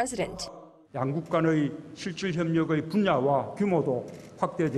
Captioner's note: Korean